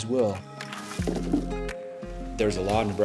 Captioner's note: crunching and pattering